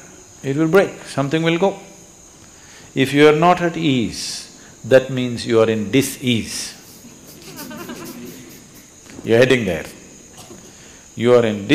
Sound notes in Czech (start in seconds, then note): 6.8 smích